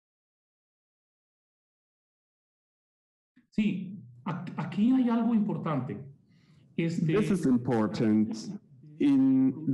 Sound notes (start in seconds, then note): 3.6 speaking in foreign language